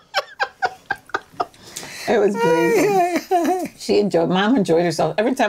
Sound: laughing

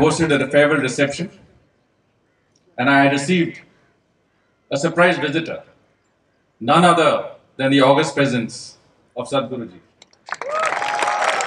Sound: cheering/Applause

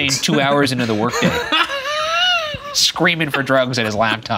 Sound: laughing

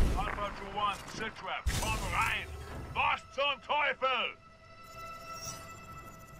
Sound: radio

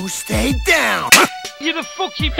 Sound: slap

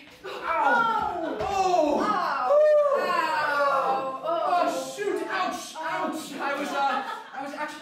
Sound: miscellaneous pain noises

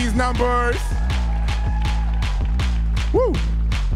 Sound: audience cheering

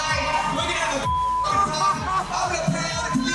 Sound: beep; upbeat party music continues

